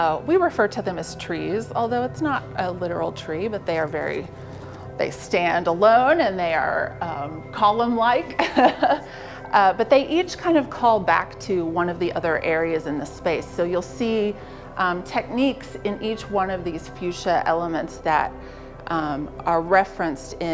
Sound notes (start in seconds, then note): 8.3 laughs